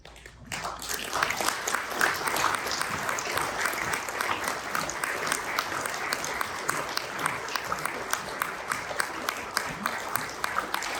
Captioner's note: applause